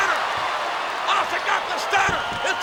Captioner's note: crowd cheering